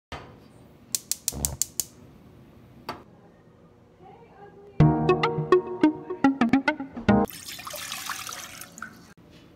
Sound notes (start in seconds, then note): 0.9 sound of gas stove turning on; 4.8 upbeat music